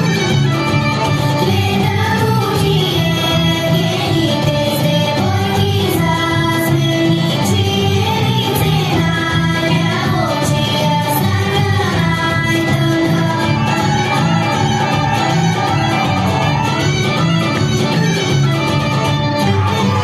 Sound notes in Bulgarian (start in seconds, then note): 13.5 аплодисменти